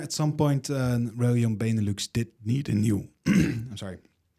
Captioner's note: clears throat